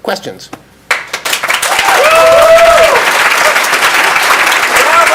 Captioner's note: crowd applauds